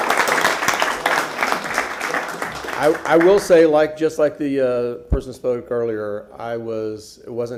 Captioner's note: applause